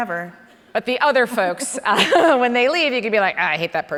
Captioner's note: laughs